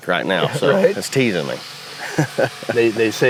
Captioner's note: laughs